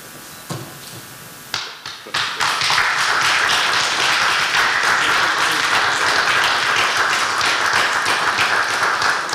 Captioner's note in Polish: oklaski